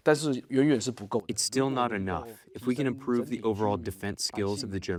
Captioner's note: through translator